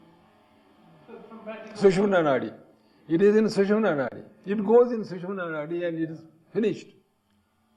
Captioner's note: breath